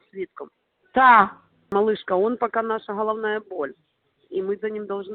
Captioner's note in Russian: разговаривает на русском